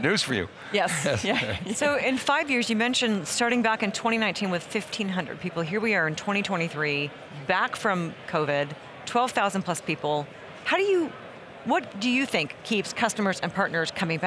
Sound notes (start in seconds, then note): 0.8 chuckling